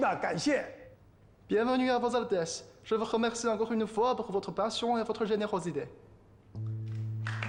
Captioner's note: French